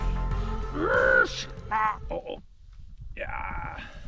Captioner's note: Pingu noises